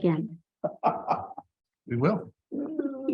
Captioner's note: trustee laughing